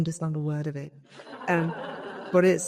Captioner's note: audience laughing